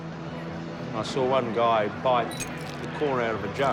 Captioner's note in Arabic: زجاج يتكسر